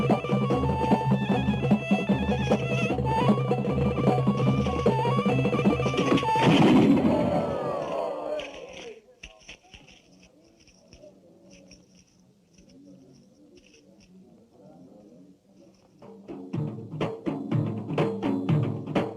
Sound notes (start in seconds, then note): 7.6 crowd gasping; 11.7 crowd murmuring; 16.3 energetic music